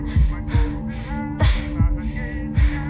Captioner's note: Riley breathing heavy